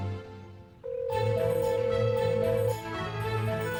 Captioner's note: dial tone